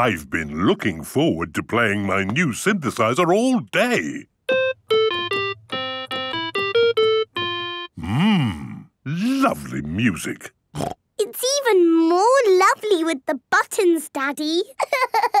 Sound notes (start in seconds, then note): 4.4 playing theme song; 10.8 snorting; 14.8 laughing